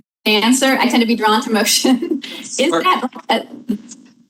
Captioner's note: laughs